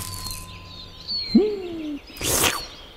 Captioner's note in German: Genüsslicher Laut